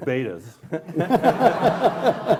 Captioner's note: laughing